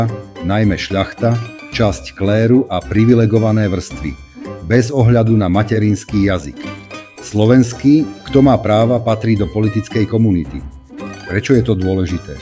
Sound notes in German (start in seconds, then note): 7.0 Slowakisch